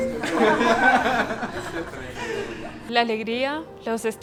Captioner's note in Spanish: risas